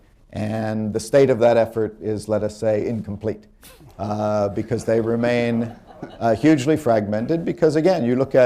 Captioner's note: laughter